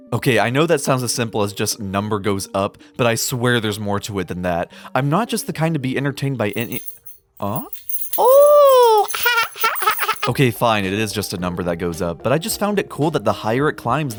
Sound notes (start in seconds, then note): 6.5 keys jingling; 9.1 baby laugh while clapping hands; 9.1 keys jingling